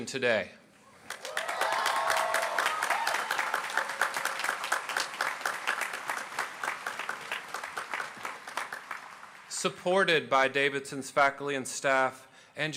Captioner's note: applause